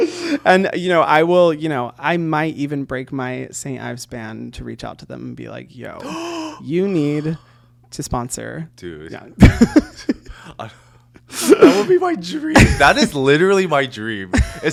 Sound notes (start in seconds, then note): 11.2 sobbing